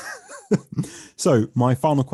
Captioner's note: laughing